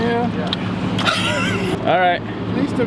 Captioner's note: laughing